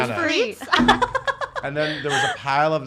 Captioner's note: laughs